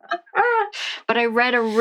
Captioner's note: laughs